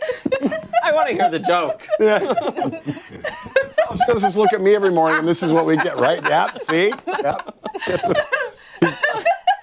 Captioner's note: laughter